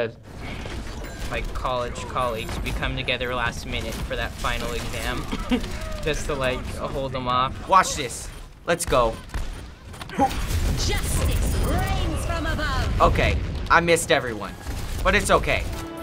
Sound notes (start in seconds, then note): 5.2 chuckles; 9.5 grunts; 14.5 heroic music